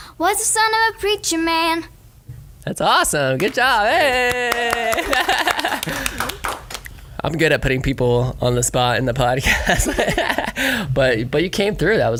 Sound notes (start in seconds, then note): 3.3 whole studio applauds; 4.6 laughs; 9.4 laugh